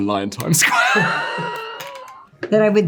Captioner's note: all laughing